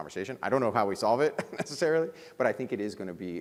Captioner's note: chuckles